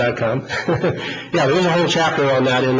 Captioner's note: laughs